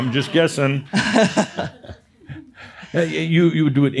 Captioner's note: they chuckle